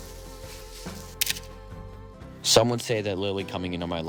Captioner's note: camera clicks